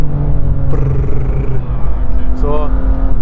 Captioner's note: brrrrr